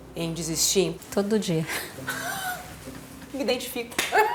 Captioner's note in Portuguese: risos